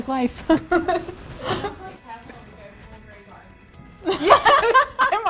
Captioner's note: ladies laughing